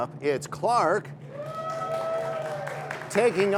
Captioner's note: cheers and applause